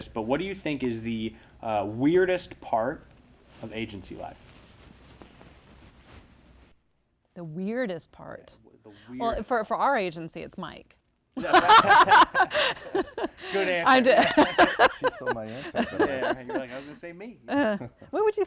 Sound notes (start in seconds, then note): 11.4 laughing